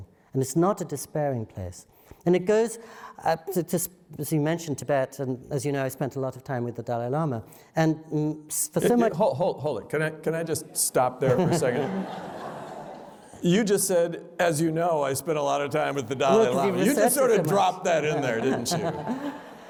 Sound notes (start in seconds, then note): 11.2 laughter